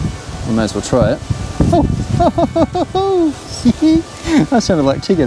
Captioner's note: laughing